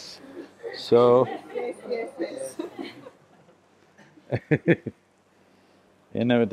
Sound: laughter

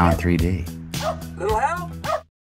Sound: dog Barking

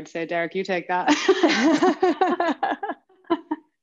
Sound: laughter

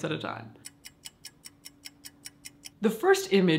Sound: clock ticks

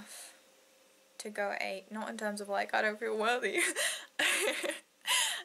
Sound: laughs

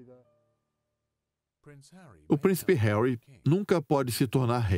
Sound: voiceover

